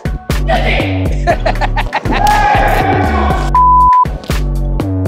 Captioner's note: participant laughs